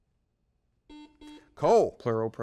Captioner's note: double beep